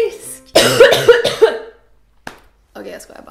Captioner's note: coughing like shit